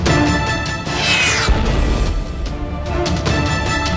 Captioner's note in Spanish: explosión